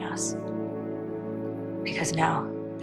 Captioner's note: voiceover